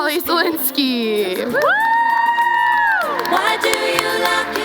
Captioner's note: cheering